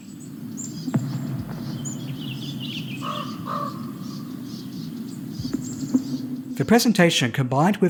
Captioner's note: sounds of the birds in the forest